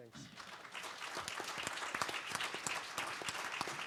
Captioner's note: handclaps